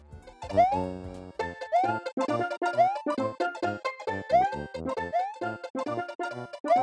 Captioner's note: Super Mario World sounds